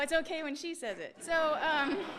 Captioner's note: laughter